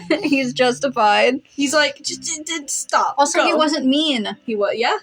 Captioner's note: giggle; stutter